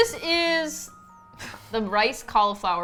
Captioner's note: laughs